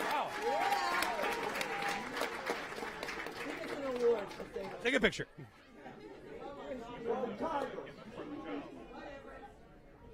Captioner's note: cheering and applause